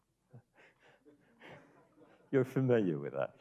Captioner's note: audience laughing